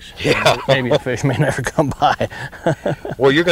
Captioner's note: laughter